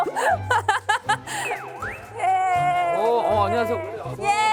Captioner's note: entering amidst cheers from the family!